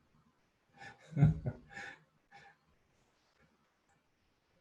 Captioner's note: laughing